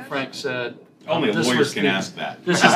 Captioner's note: laughter